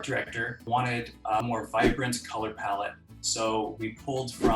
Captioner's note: air whooshing; air whooshing